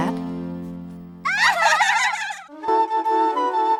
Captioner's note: girls giggling; pleasant music